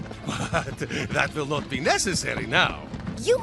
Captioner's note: chuckling